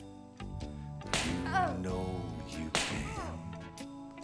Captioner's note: smack; smack